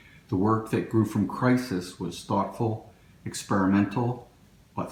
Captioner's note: none